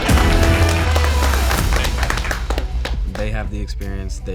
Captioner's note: all applaud